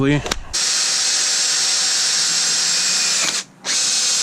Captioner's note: drill whirs